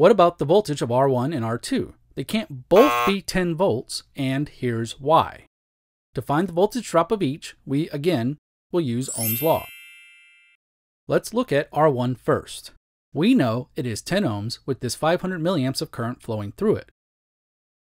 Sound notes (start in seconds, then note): 2.7 buzzer